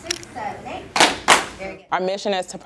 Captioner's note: clapping